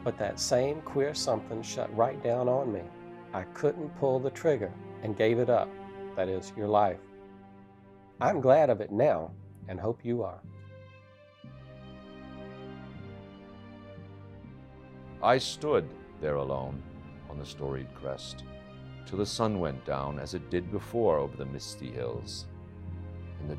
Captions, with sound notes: But that same queer something sat right down on me. I couldn't pull the trigger and gave it up, that is, your life. I'm glad of it now and hope you are. (dramatic music) - [Voiceover] I stood there alone on the storied crest until the sun went down as it did before over the misty hills.